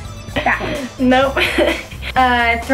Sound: laughs

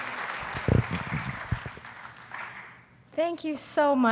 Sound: applause

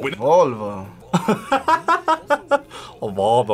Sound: laughs

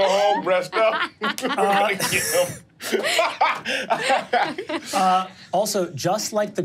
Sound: players laughing; laughs

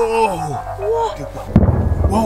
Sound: stomping

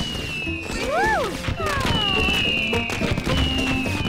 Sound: fireworks cracking

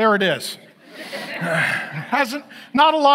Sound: audience laughs

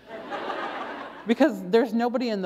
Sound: laughter

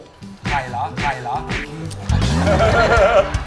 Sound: chuckle

